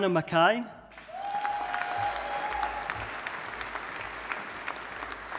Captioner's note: audience applauding